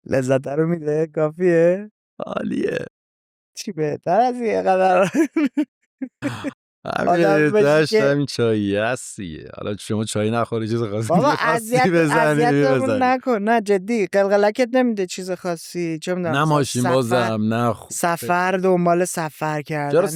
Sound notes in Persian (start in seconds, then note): 5.0 خنده